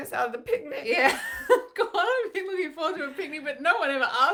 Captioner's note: laughs